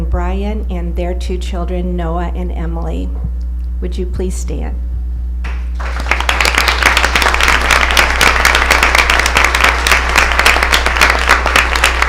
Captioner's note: applause